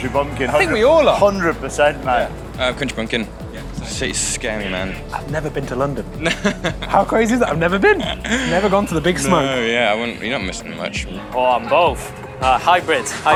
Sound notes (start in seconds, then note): 6.4 laughs